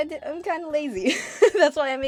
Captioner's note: laughs